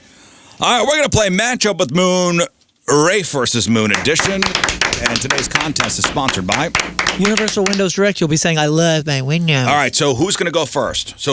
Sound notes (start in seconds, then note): 3.9 clapping